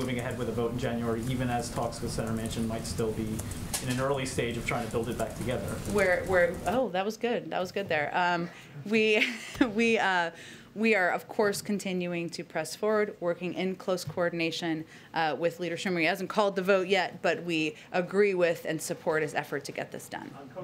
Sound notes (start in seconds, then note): 10.0 laughs